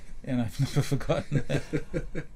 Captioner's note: laughs